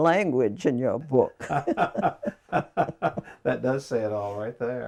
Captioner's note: laughing